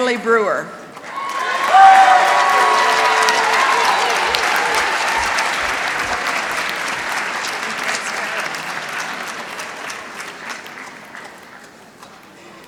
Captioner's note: applause